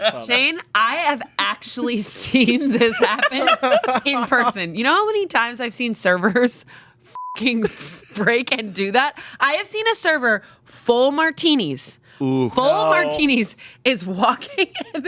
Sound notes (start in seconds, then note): 7.1 beep